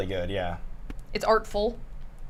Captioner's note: none